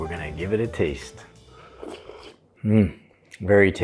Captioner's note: slurping